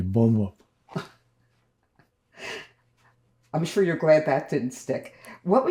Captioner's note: laughing